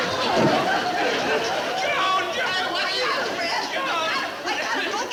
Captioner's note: audience laughing; loud fuss continues